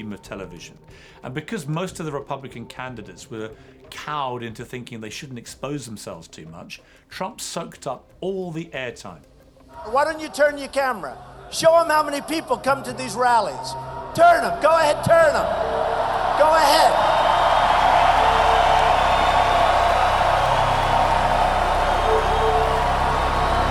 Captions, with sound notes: - This is a TV star who knew how to work the medium of television. And because most of the Republican candidates were cowed into thinking they shouldn't expose themselves too much, Trump sucked up all the air time. - Why don't you turn your camera? Show 'em how many people come to these rallies. Turn 'em! Go ahead, turn 'em! (audience cheering) Go ahead! (continued cheering)